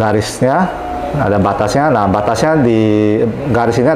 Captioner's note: doorbell sound